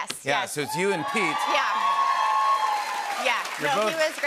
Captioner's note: cheers and applause